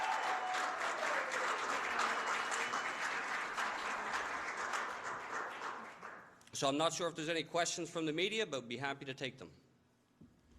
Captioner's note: applause